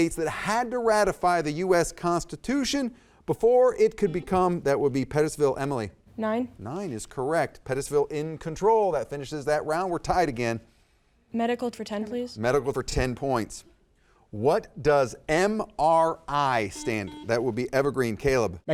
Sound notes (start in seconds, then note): 4.1 buzzer dings; 16.6 buzzer dings